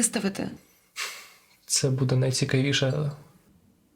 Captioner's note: giggles